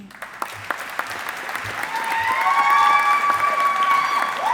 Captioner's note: audience applauding